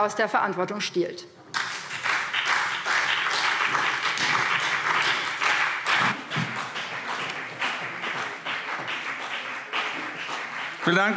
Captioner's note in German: Beifall BÜNDNIS 90/DIE GRÜNEN und CDU